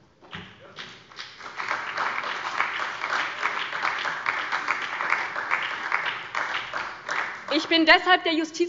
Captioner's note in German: Beifall bei der SPD und dem BÜNDNIS 90/DIE GRÜNEN